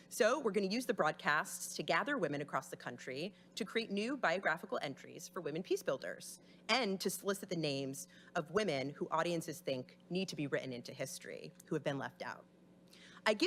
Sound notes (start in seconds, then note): none